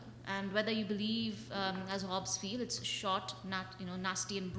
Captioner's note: slurs words